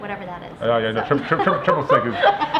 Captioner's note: laughter